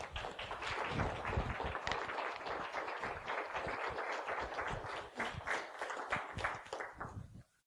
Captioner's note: applause